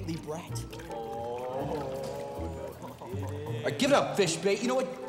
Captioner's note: boys laugh quietly